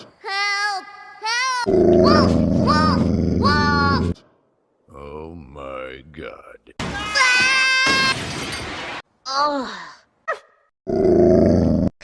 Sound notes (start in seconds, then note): 7.8 crash